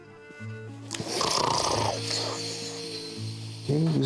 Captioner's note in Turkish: Horlama sesi